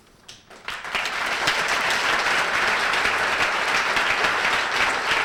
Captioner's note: applause